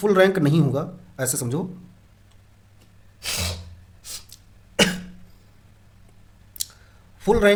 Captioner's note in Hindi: नाक से की जाने वाली आवाज़